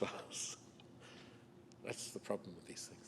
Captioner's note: chuckles